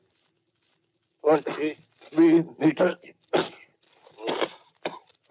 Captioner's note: coughs; coughs